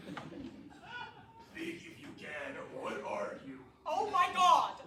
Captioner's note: raspy